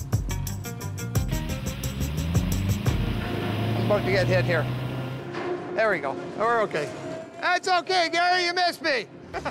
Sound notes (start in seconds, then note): 1.5 machine humming; 9.3 chuckles softly